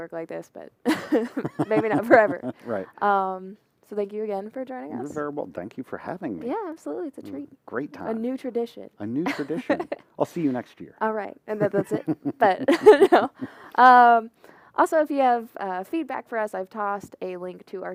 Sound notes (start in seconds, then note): 14.2 laughter